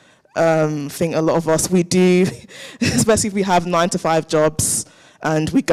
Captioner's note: chuckles